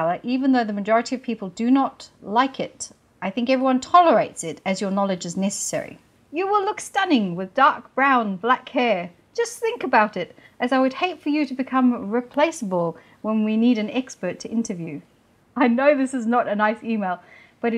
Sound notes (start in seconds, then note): none